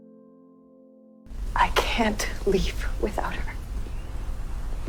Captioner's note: voiceover